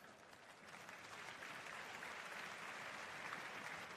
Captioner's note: applause